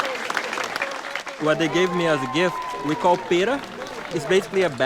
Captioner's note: non-english